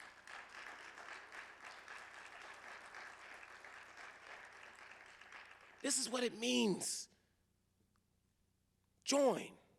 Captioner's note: applause